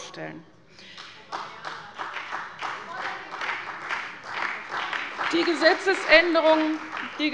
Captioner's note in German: Beifall bei der CDU und dem BÜNDNIS 90/DIE GRÜNEN